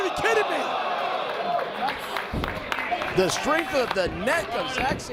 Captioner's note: applause